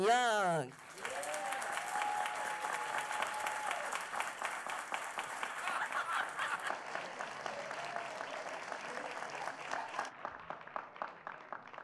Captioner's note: applause